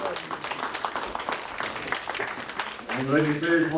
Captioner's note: applause